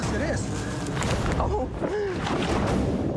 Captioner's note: laughs